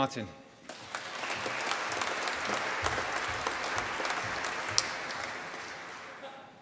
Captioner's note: applause